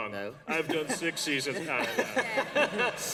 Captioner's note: laughter